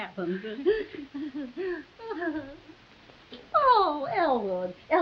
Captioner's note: Veta laughing nervously